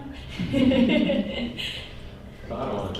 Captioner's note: laughter